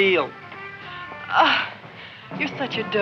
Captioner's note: Leonora groans